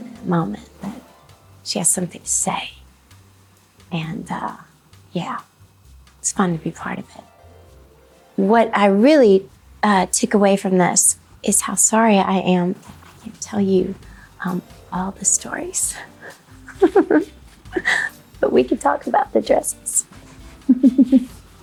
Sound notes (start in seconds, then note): 16.2 person laughing